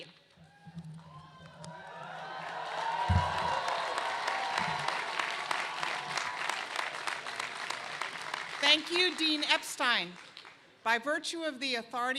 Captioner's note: cheers and applause